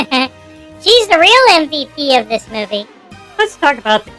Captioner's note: giggling